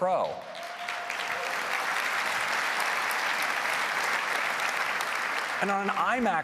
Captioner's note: applause